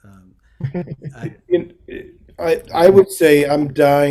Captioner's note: laughs